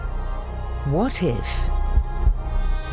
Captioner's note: voiceover